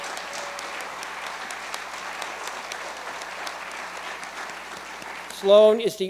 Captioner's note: applause